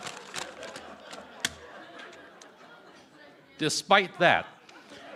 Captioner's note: laughter